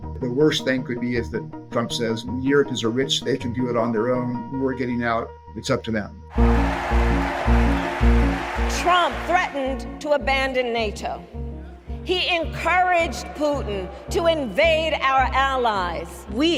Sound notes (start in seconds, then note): 6.3 crowd cheering